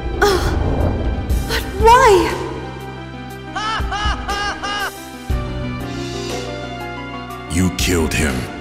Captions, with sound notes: Oh! But why? [More annoying Tidus laughter] You killed him.